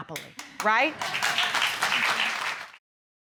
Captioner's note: audience applauding